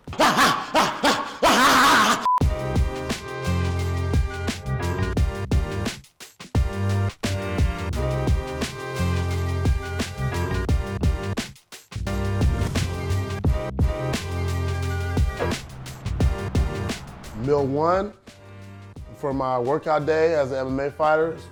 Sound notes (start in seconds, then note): 0.3 shouts; 2.2 screen cut beeps; 2.4 rnB music